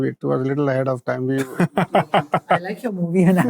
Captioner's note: laughs